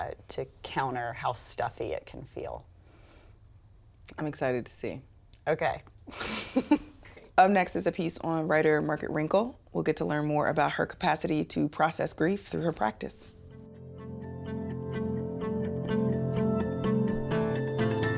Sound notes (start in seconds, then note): 6.1 women laugh; 13.4 soft instrumental music